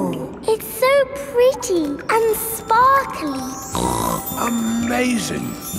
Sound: snorts

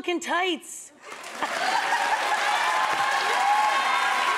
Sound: crowd cheering

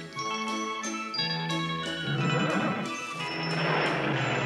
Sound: neigh

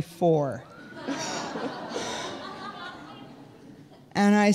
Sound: audience laughing

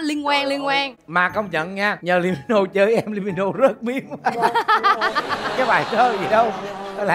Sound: laughing

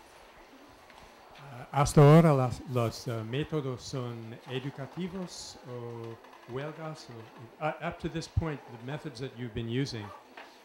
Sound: Spanish

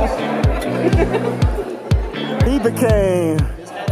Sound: giggles

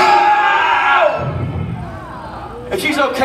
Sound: screaming; audience exclaims

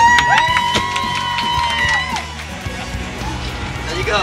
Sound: applause and cheers

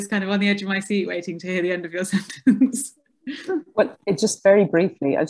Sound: laughs

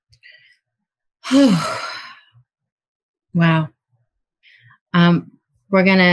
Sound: sighs

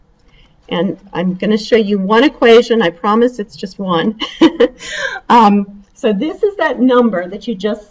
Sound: chuckles

